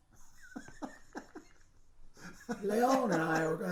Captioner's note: laughing